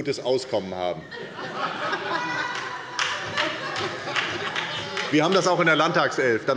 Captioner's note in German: Heiterkeit und Beifall bei der SPD